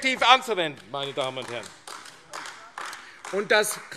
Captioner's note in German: Beifall AfD